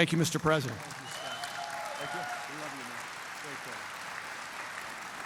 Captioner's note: applause